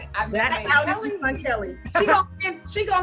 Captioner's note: laughing